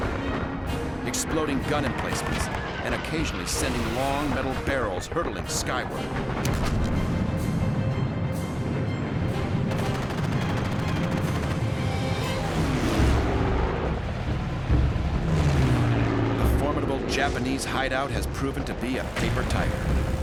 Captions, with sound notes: exploding gun emplacements and occasionally sending long metal barrels hurtling skyward. [explosions] [gunfire] The formidable Japanese hideout has proven to be a paper tiger.